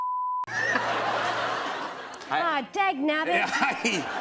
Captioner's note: laughter